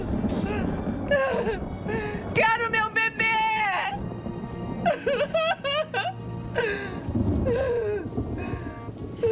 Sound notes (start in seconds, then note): 1.0 gasps; 4.8 sobbing, thunder